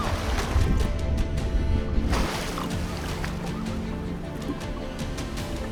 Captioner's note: dramatic orchestral music continues; water splashing; bubbles gurgling; dramatic orchestral music continues